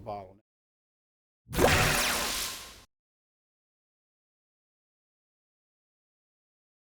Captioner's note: swooshing Sound